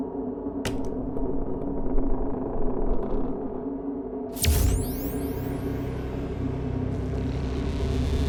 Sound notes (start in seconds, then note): 0.6 wood creaking; 4.4 suspenseful music